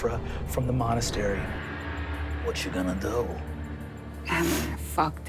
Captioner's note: sound of a gong